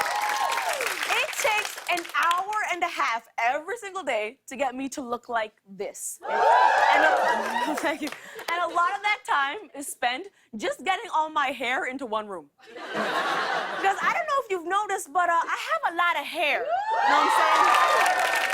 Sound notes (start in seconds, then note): 6.2 audience cheering; 16.6 cheers and applause